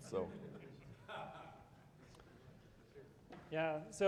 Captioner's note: people chuckling